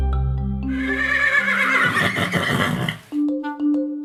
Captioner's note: horse whinnying